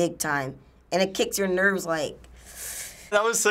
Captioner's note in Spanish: inhala